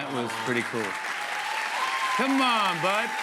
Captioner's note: applause